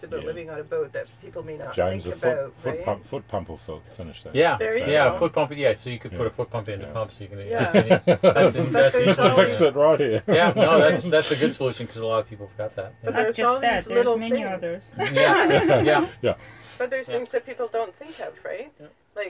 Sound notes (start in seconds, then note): 14.9 laughter